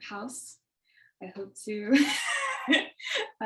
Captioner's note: laughs